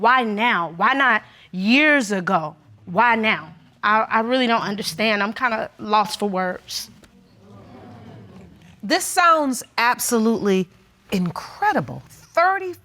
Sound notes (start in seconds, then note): 7.2 audience murmuring